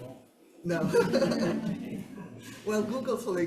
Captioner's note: attendees chuckling; chuckling